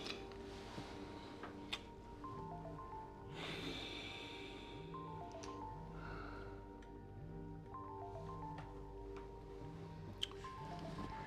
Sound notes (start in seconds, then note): 2.2 cellphone rings; 3.3 sighs; 9.2 ringing continues